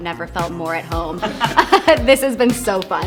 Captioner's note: group laughs